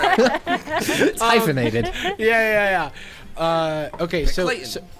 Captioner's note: players laughing; pat